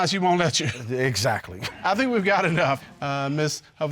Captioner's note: judge laughs